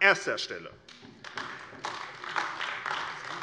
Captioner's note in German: Beifall AfD